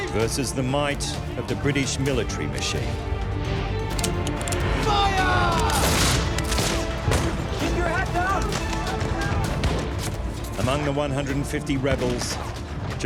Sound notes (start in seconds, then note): 5.2 muskets firing; 8.3 pistols firing; 12.2 musket fires